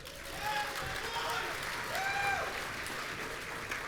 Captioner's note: audience cheering